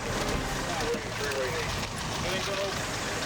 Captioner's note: officers chattering